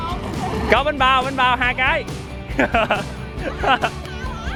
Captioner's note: laugh